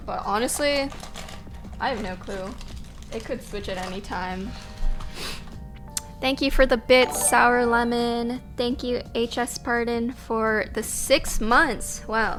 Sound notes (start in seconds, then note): 6.9 notification tingling